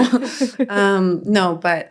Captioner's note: all chuckling